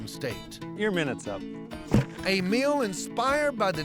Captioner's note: thud